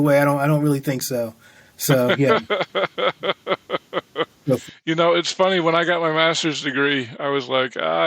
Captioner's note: chuckling